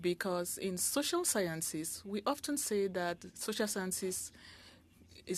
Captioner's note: speaking French